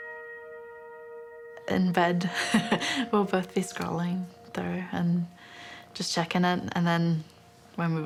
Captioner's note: chuckles